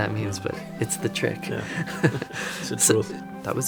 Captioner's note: laughs